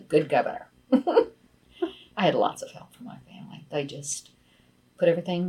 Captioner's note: laughs